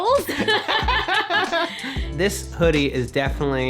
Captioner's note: laughing